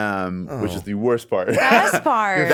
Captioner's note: laughs